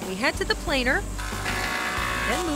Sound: grinding noise

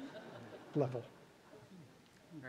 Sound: laughter

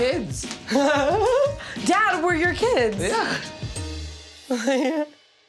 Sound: laughing

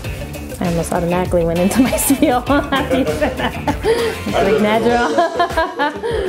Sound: laughs

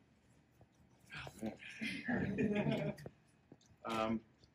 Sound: laughter

